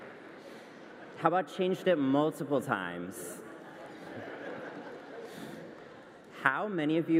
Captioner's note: laughter